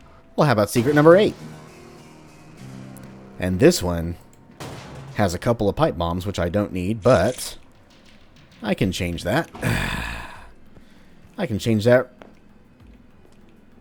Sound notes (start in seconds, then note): 4.5 smash; 9.6 ready sigh